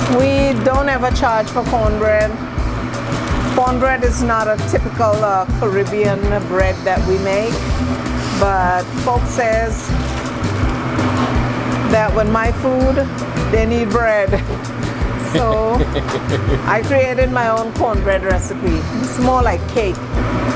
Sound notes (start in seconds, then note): 14.3 laughs; 15.2 laughing